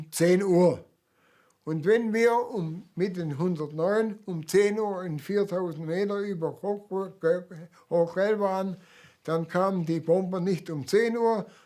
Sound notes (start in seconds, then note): none